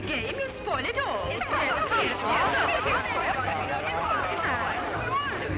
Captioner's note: women murmuring